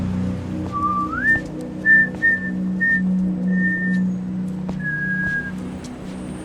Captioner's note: pedestrian whistling cheerfully